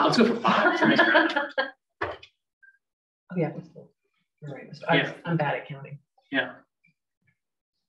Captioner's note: laughs